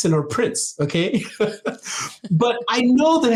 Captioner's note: laughing